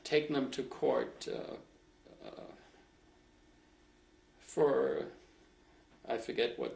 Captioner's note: pauses for 3 seconds